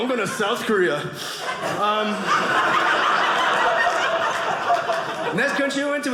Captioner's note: audience laughing